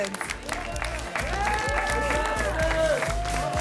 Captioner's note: applause and cheering